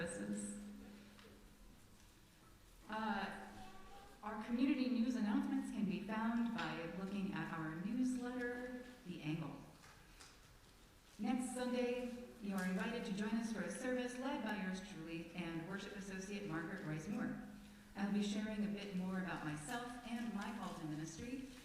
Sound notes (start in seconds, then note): 0.7 silence